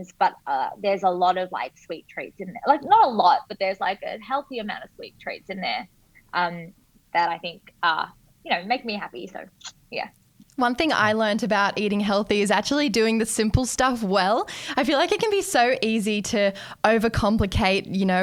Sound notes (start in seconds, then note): none